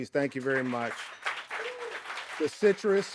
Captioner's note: audience applauding